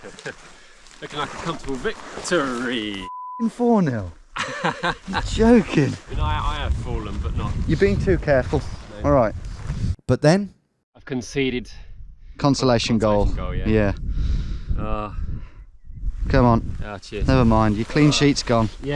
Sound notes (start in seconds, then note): 0.4 laughs; 3.0 beep; 4.3 chuckles